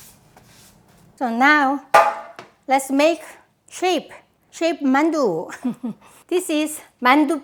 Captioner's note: chuckling